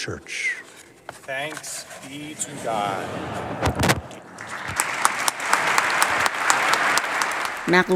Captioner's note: applause